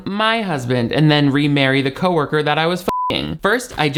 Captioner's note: beep